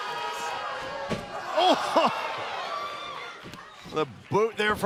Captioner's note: laughter